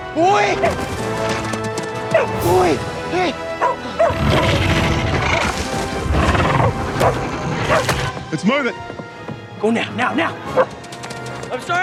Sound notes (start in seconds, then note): 1.0 sand rustling; 3.8 dog woofing; 6.6 crab snarling; 10.8 dog woofing